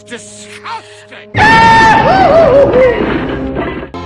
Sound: Goofy holler; crash!

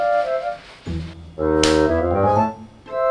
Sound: clap!

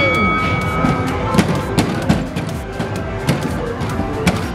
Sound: bell ringing; hammer smacking

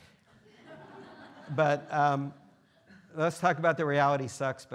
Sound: students laughing

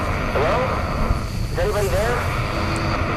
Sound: static; static from radio

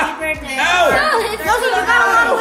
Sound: everyone wishing happy birthday

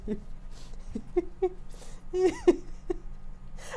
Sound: laughing

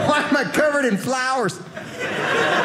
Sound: audience laughing

